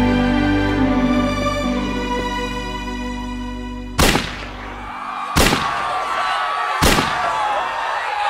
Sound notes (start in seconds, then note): 5.3 gunshots fired